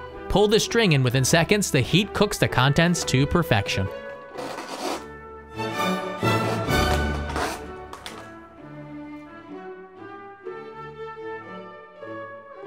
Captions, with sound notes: Pull the string and within seconds the heat cooks the contents to perfection. (Sound of string being pulled)